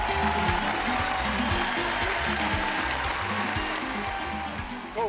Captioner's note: cheering